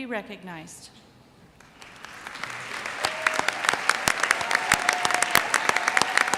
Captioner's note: audience cheers and applauds